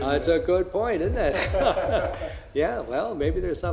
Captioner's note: laughing